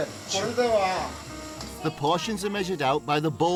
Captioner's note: speaks Japanese